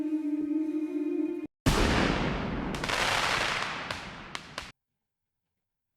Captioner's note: explosion